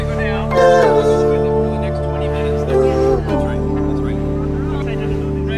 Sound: indistinct chatter

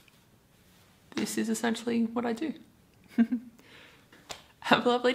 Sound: giggles

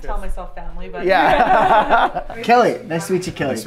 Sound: everyone laughs

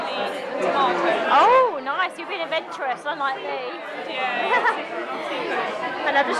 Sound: laughs

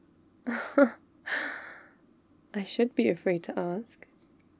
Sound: laughs

